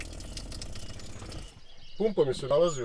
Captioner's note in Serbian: zvuk vode koja teče